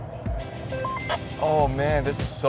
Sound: man Through Radio; radio beeping

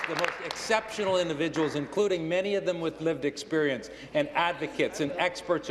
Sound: applause

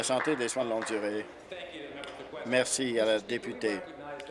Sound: applause

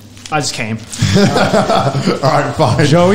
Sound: laughs

